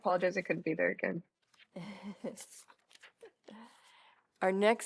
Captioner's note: laughter